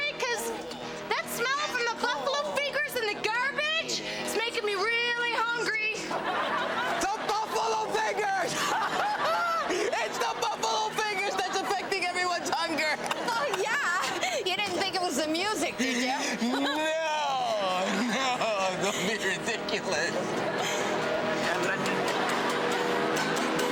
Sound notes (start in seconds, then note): 6.2 audience laughs; 8.9 laughs; 17.9 audience laughs; 22.8 audience laughs